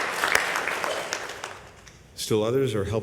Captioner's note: applause